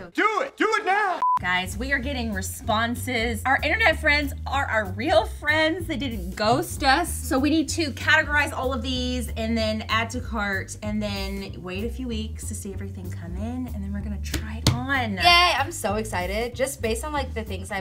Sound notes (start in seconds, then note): 1.2 screen beeps